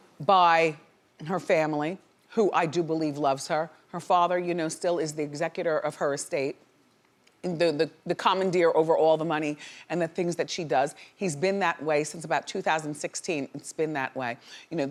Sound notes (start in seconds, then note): none